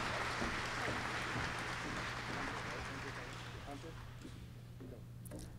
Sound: applause

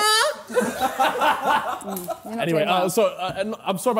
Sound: sidemen laughing

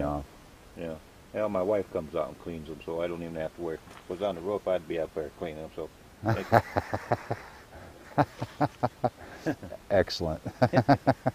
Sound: laughing

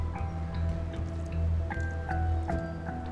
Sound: water trickles down

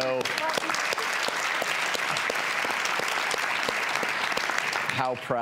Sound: audience applause

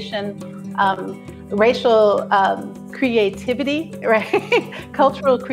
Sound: chuckling

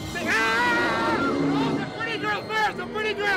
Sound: screams

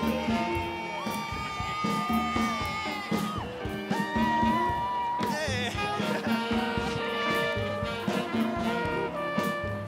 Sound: applause

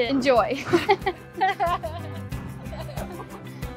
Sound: all laugh

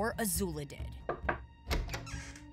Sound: knocking

